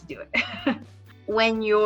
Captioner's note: laughs